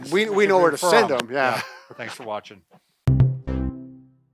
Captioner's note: laughs